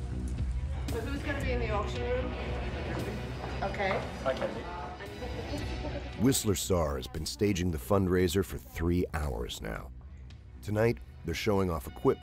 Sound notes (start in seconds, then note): 4.8 voiceover